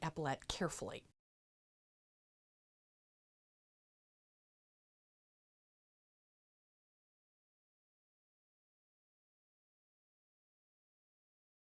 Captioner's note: no Sound Present